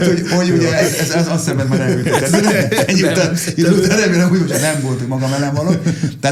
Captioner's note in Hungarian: nevetés